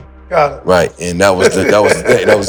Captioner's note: Maverick laughs